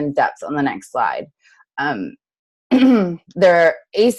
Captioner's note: clears throat